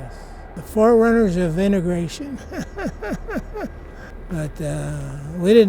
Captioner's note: laughs